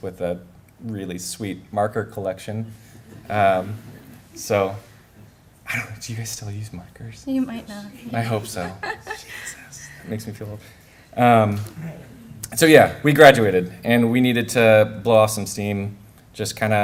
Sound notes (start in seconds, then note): 8.2 laughter